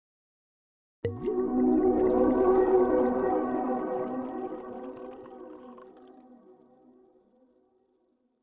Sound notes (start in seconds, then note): 1.1 soft melodic music; 1.1 wine pouring